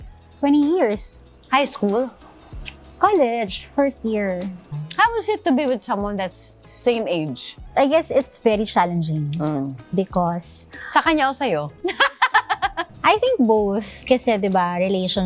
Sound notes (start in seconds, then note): 11.8 laughs